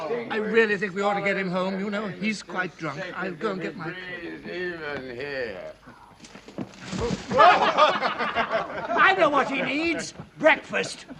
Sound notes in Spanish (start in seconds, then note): 7.2 Todos se ríen